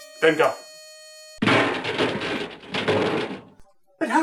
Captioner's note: trash cans banging